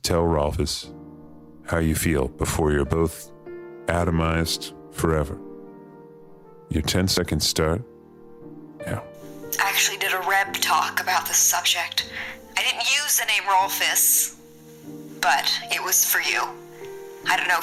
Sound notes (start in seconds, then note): 8.9 timer ticks